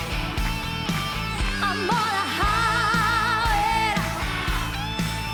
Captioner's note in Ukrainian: оплески